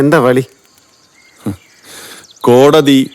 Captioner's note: chuckling